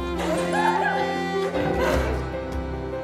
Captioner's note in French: rires